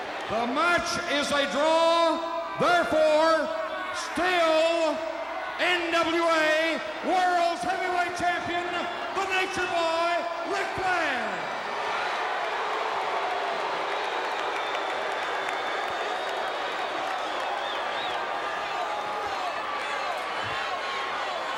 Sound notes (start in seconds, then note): 11.5 crowd applauding; 11.5 crowd booing